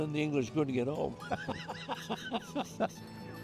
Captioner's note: laughs